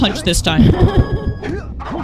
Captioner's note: laughter